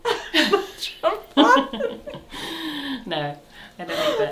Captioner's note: laughs